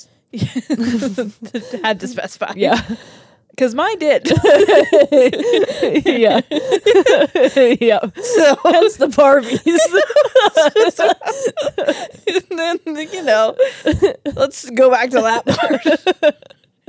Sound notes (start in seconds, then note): 0.4 laugh; 4.8 laugh; 9.1 laugh